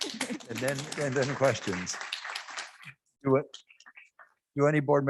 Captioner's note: audience clapping